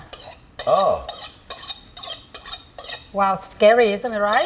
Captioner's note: knife scraping